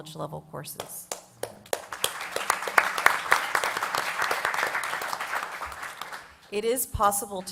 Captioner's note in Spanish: Aplausos